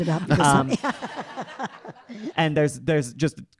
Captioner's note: audience laughing